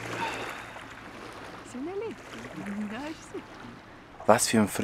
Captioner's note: in Swiss German